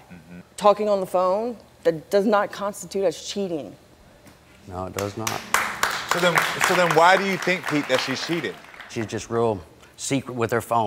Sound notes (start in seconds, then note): 4.9 audience clapping